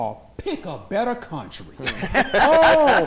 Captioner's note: laughter